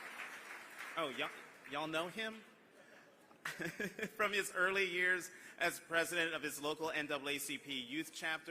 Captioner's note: applause